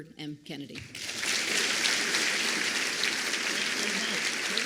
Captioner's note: applause